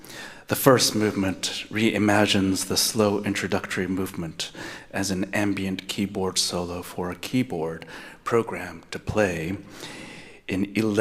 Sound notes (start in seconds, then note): none